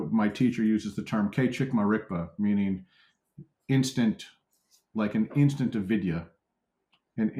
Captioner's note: tibetan